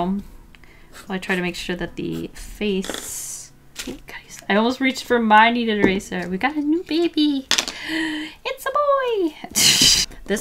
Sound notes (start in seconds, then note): 7.7 gasps; 9.5 laughs